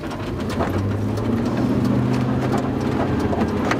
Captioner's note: motor roars